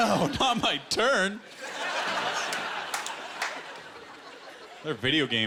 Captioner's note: laughter